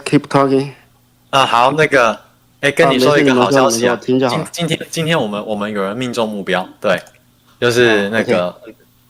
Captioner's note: non-english speech